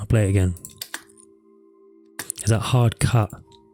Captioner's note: taps on keyboard; taps on keyboard